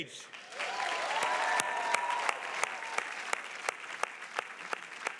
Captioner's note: audience applauding and cheering